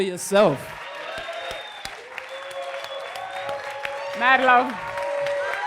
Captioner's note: applause and cheers